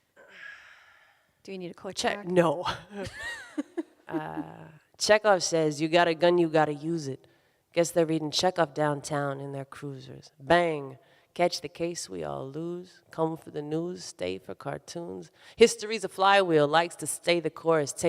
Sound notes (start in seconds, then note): 3.0 both laughing